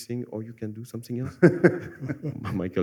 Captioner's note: laughter